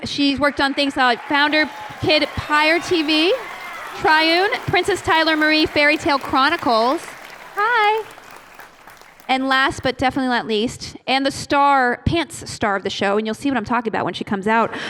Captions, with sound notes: She's worked on things like founder, KidPire TV, "Triune," "Princess Tyler Marie Fairy Tale Chronicles." [APPLAUSE] Hi! And last, but definitely not least, and the pants star of the show-- and you'll see what I'm talking about when she comes out--